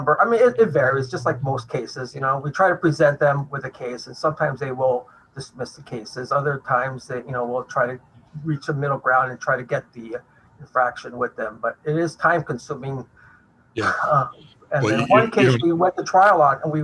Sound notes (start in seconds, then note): 13.8 chuckles